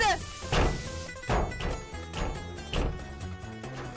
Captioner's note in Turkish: Vurma sesi